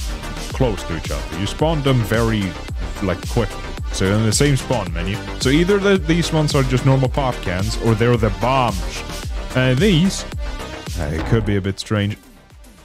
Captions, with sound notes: 𝗖𝗹𝗼𝘀𝗲 𝘁𝗼 𝗲𝗮𝗰𝗵𝗼𝘁𝗵𝗲𝗿. 𝗬𝗼𝘂 𝘀𝗽𝗮𝘄𝗻𝗲𝗱 '𝗲𝗺 𝗩𝗲𝗿𝘆... 𝗟𝗶𝗸𝗲, 𝗤𝘂𝗶𝗰𝗸𝗹𝘆 𝘚𝘰 𝘵𝘩𝘦𝘺 𝘸𝘦𝘳𝘦 𝘪𝘯 𝘵𝘩𝘦 𝘴𝘢𝘮𝘦 𝘴𝘱𝘢𝘸𝘯 𝘮𝘦𝘯𝘶! So, either the- these ones are just normal Popcans Or they're the 𝘽𝙤𝙢𝙗𝙨! And 𝘵𝘩𝘦𝘴𝘦. Eh.. It could be a bit strange-- [DONK] Eh.. It could be a bit strange-- Eh.. It could be a bit strange--